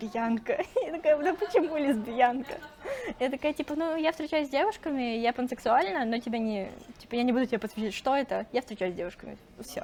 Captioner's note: laughs